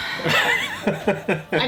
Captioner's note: laughs